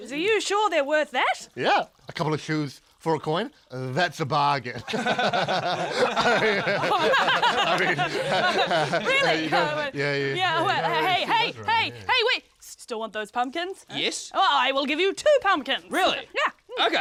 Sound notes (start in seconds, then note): 4.8 laughing